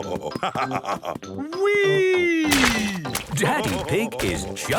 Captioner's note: splashes